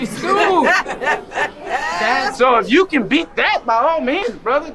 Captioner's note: woman laughing